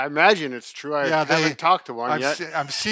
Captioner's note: laughs